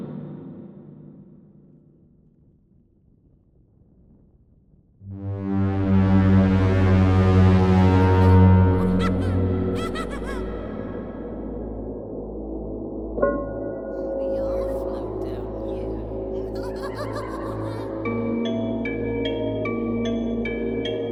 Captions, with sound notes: (haunting music) (clown laughing) - We all float down here. (laughs maniacally) (creepy music)